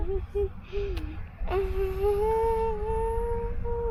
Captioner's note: humming